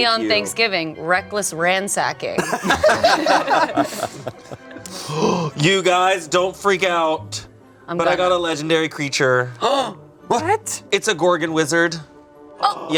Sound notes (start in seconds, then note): 2.4 group laughing